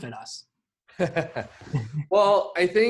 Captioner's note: laughs